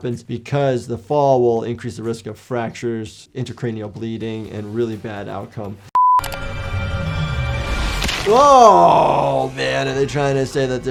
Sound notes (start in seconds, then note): 5.9 digital beep